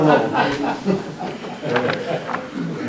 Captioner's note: laughter